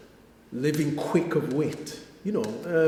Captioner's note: clicks fingers